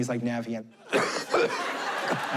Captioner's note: coughs